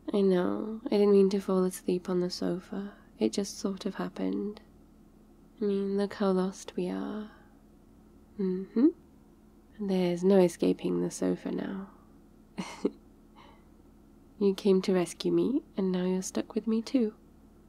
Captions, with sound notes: I know, I didn't mean to fall asleep on the sofa, it just sort of happened I mean look how lost we are mmhmm there's no escaping the sofa now *laughs* you came to rescue me and now you're stuck with me too